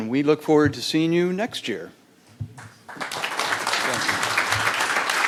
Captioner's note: applause